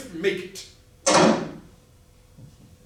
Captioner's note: door slam